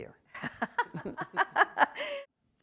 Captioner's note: laughter